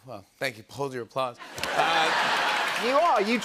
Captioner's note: laughter